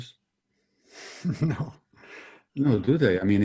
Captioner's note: sighs